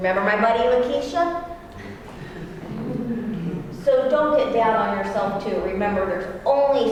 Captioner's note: laugh